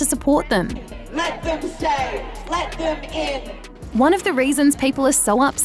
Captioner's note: chants